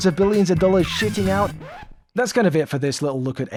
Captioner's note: record scratch